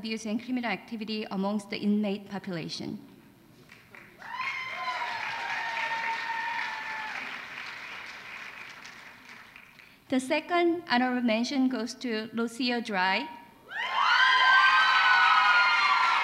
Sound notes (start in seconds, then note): 3.6 applause; 12.4 applause